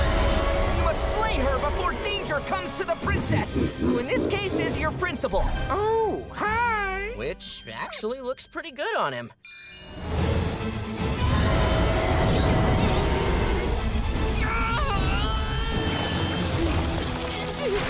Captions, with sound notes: You must slay her before danger comes to the princess, who in this case is your principal. Oh, hi. Which actually looks pretty good on him. [roaring] [groaning]